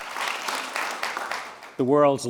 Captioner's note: applause